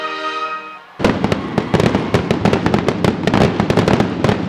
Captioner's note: fireworks popping